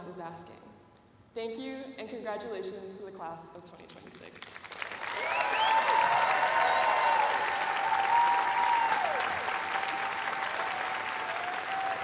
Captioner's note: cheers and applause